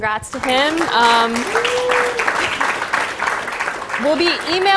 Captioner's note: applause, cheering